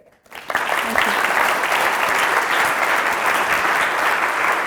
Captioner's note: audience applauding